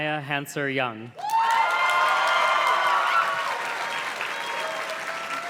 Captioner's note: audience cheers and claps